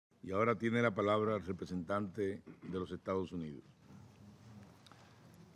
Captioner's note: in Spanish